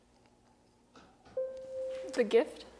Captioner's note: bell rings